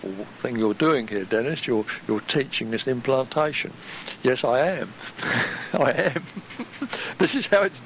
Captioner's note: chuckle